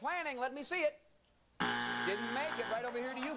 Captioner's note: buzzer